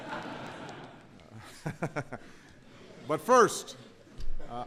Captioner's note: laughter